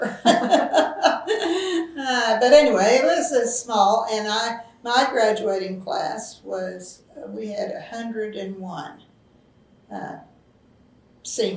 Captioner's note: laughs